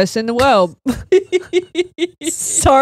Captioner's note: all laughing